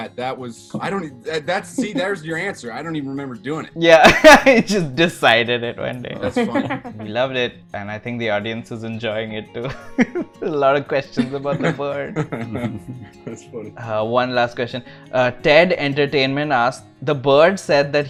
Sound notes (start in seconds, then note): 6.3 laughs; 6.5 laughter; 11.2 laughs